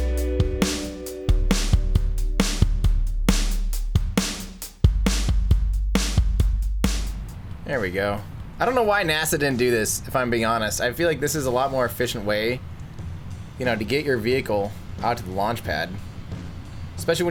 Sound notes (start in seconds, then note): 0.0 drumbeat; 6.8 rocket thrusting